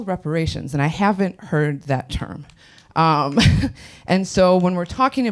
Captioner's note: laughs